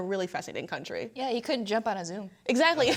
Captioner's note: speakers laugh